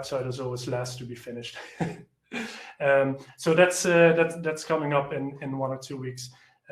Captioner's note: laughs